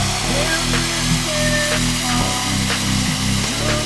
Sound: sound of cbaviation.com fly-over graphic

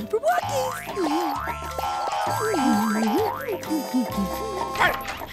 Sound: humming

